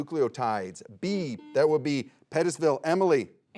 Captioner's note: buzzer beeps